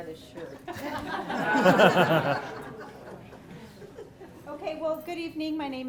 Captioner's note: audience laughs